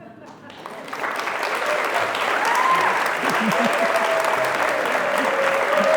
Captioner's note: crowd cheering and applauding